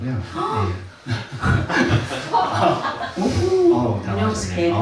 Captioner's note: audience laughs